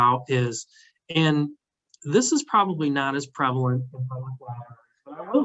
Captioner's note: tape distortion